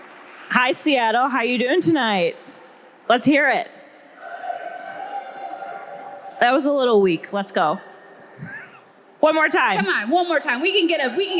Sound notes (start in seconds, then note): 4.2 audience cheering